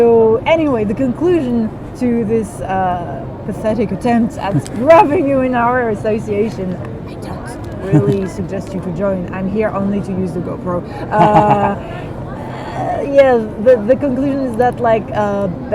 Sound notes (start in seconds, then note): 7.7 Gavroche laughs; 11.0 Gavroche laughs harder